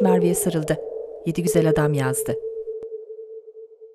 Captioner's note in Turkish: Rüzgar sesi